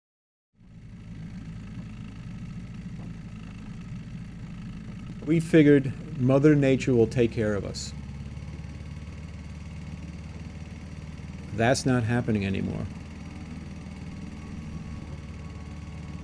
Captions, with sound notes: - (boat engine running) - [Voiceover] We figured mother nature will take care of us. That's not happening anymore.